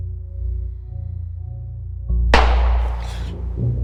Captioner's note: Joe exhaling; gun fires; Joe gasping